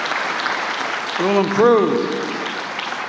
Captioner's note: applause